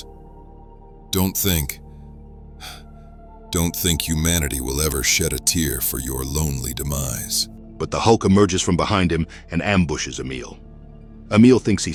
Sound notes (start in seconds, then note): 2.6 hh-uhh